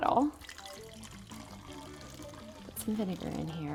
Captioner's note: water rattling